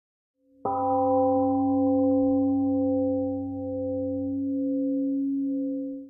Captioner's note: temple gong rings and fades